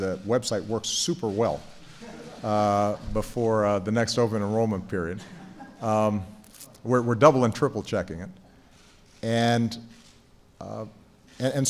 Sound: laughter

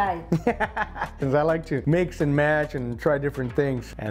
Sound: chuckles

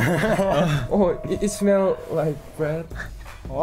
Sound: speaks in foreign language; laughs

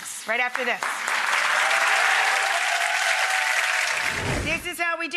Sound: audience cheering

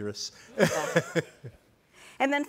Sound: group laughing

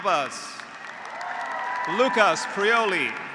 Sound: graduates applauding; graduates cheering

